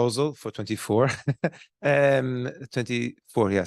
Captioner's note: laughs